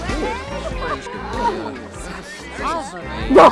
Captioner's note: cries